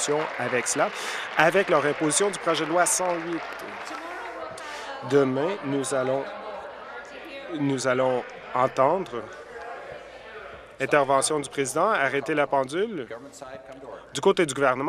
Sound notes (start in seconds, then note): 6.1 applause